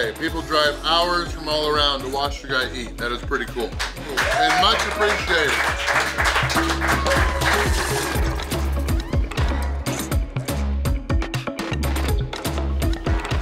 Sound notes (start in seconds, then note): 6.0 crowd applauds; 6.0 crowd cheers; 8.8 upbeat instrumental music